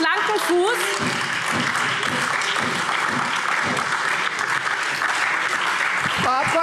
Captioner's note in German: Beifall SPD, AfD, Freie Demokraten und DIE LINKE